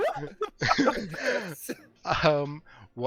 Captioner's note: laughter